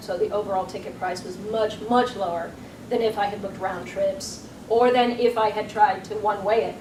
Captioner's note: none